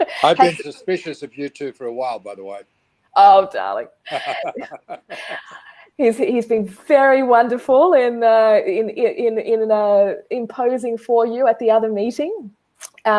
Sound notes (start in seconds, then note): 4.0 laughs